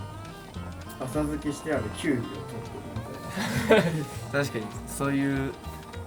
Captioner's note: laughs